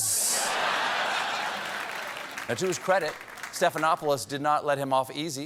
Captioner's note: laughter